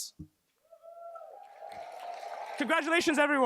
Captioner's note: cheers, applause